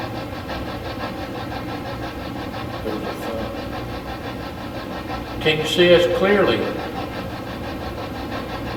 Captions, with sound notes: (mumbles) Can you see us clearly?